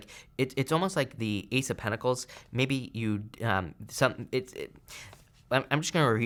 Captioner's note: stammers